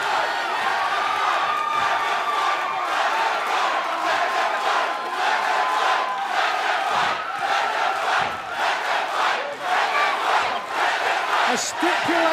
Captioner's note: fans chanting